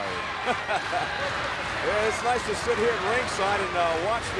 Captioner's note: laughs